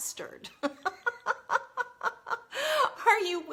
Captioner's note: laughs